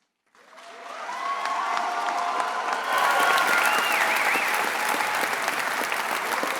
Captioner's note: graduates and guests applauding and cheering